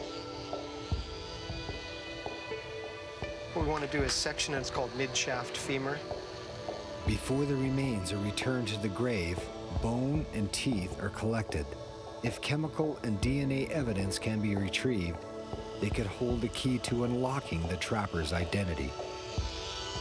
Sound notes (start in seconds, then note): 0.1 mysterious music; 7.2 voiceover